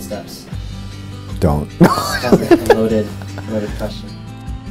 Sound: laughs cheerfullly; acoustic guitar

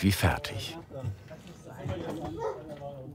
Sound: muffled babble of voices

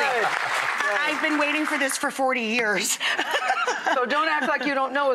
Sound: audience applause; laughs

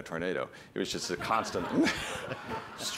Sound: laughter

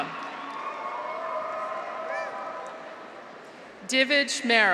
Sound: graduates cheer

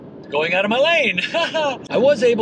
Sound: laughing

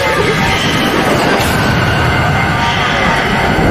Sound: evil laughing

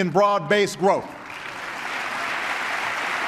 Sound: applause

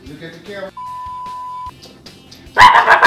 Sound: beep

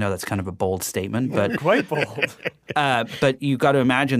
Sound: laughs

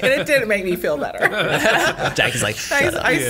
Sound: laughter

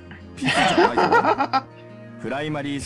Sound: laughs

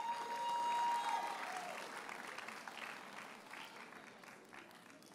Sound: audience cheers and applauds

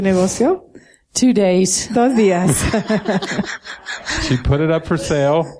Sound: laughing

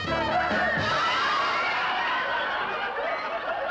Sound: laughter

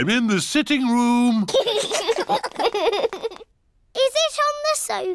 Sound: laughter

